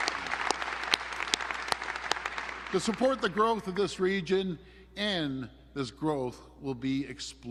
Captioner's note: applause